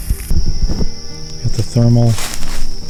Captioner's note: insects buzzing